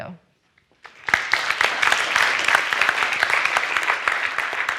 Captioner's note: audience applauds